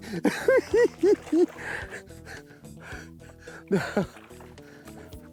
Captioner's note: laughs